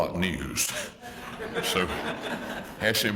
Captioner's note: laugh